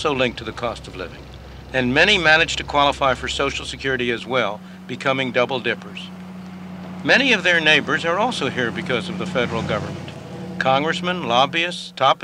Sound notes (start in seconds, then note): none